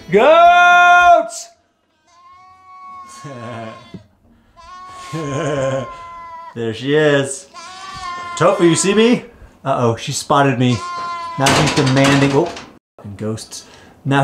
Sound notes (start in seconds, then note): 2.3 goats bleating